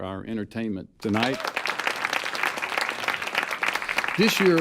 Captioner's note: applause